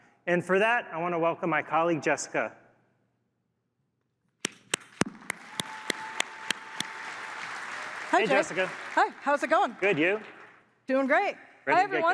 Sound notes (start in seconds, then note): 2.7 applause